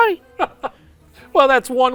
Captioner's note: laughs